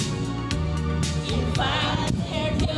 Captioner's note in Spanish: none